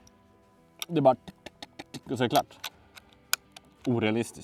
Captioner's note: trying to imitate reload sounds